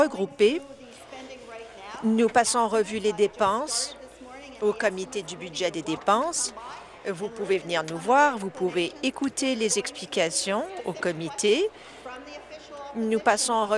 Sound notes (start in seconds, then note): none